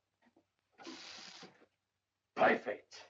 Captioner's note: water running